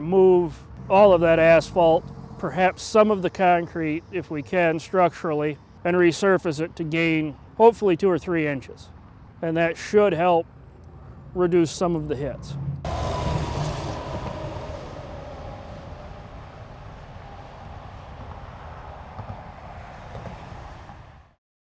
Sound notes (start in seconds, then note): 12.9 traffic sound effects